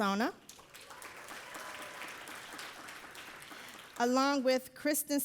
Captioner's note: audience applauding